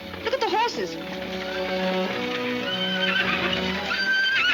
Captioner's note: horses whinnying